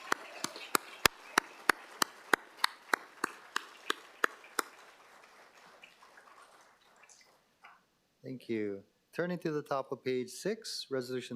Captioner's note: applause